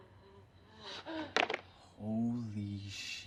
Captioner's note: chair thuds